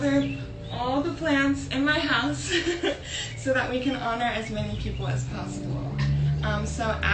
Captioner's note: laughs